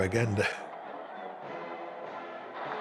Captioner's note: crowd cheering